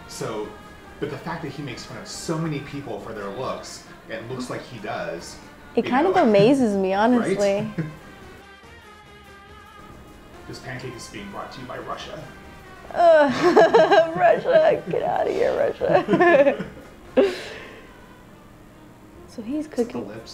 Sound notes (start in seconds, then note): 9.9 laughs; 12.9 laughs; 16.2 laughing